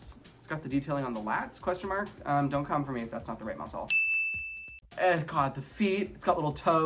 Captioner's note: ding!